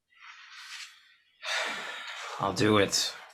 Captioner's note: agent sighing